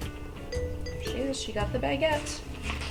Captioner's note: speaks softly